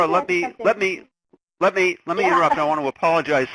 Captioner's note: laughs